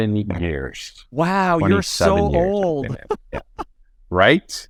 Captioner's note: laughs